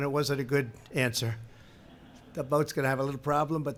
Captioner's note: laughter